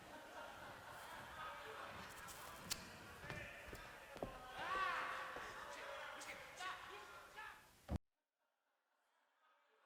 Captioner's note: background bedlam of the insane asylum